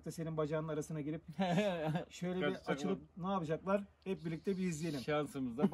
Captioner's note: laughs